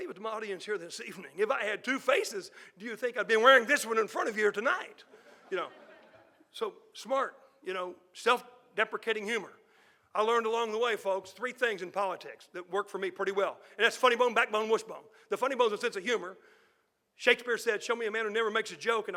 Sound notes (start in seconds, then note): 5.0 audience laughing